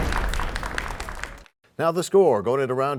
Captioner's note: crashing sound